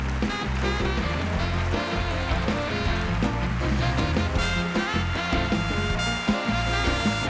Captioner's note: bright music; audience applauding